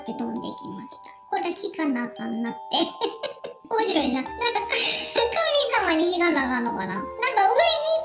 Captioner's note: laughs